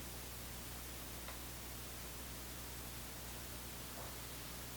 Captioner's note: click